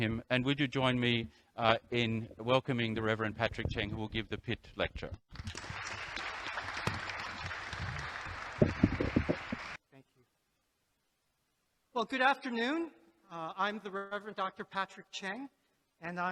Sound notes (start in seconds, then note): 5.3 audience applauds